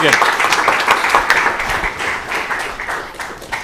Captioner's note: applause